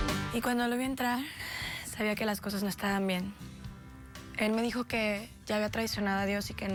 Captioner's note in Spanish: exhala